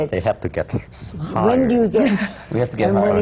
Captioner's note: laughs